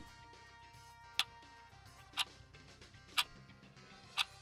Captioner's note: clock ticking